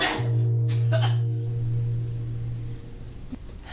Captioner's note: man spits